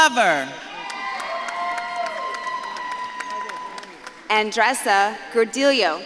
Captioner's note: audience claps and cheers